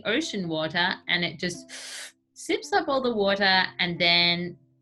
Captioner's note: slurps